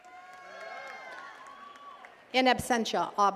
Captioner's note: attendees cheering and clapping